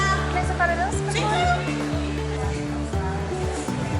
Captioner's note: speaking Spanish